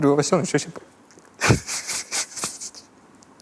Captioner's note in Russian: всхипывает